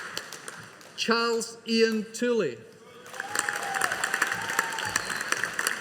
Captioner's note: audience applauding